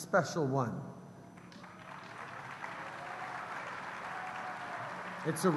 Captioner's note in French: Acclamations et applaudissements